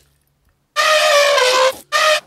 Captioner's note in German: Elefant trompetet